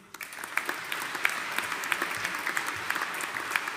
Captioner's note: audience applauding